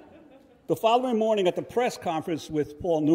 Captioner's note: audience laughs